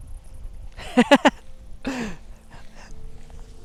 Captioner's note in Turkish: kahkaha